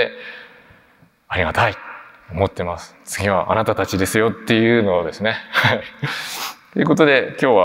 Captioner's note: chuckles